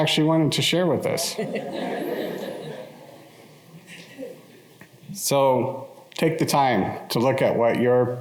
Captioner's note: laughter